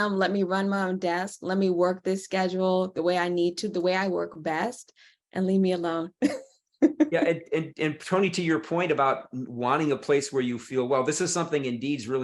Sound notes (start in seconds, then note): 6.9 laughs